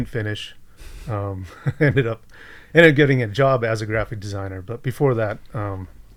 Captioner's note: chuckles